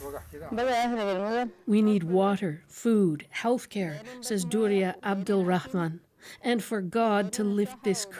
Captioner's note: speaking alternate language